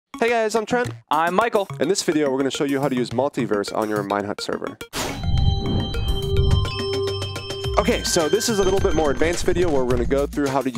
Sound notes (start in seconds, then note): 5.2 electronic chimes; 5.5 techno music